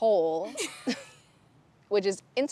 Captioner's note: Bethany laughs